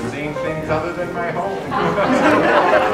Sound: laughter

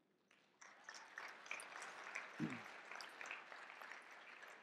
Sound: audience clapping

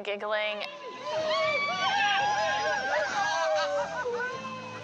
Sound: crowd cheers as they run

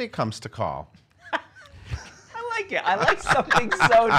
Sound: laughs

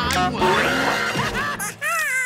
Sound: screaming

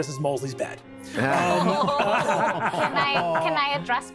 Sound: cast laughing

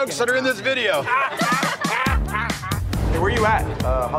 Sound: all laughing; air whooshing

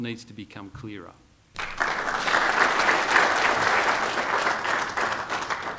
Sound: applause

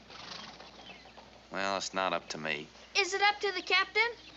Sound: none

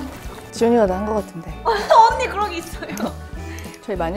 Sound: hahahahahahaha

